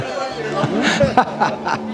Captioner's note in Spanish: Risas